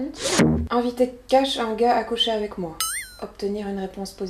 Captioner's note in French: ding